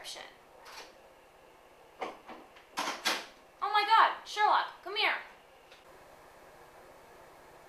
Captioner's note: door opening and closing